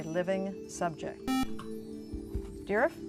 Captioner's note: buzzer